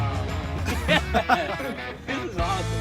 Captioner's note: laugh